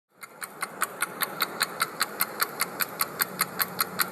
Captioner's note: clock ticking